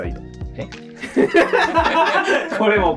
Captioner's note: laughing